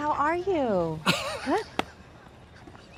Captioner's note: Trixie laughs